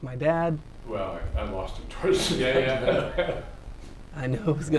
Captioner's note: chatter